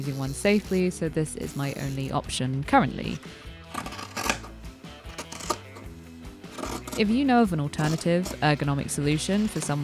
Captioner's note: scissors snipping